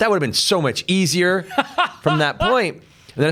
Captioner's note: laughs